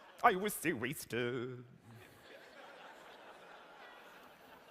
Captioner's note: laughter